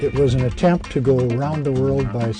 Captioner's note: voiceover